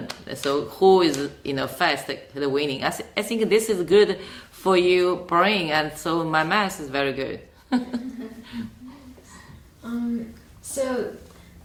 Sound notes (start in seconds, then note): 7.6 chuckles